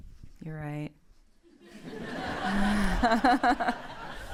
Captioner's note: laughter